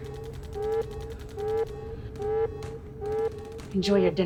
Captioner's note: gunfire pops in the distance